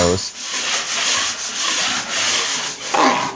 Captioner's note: scraping